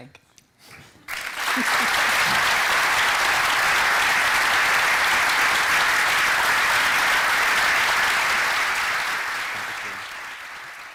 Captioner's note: applause